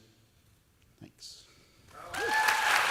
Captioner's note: cheers and applause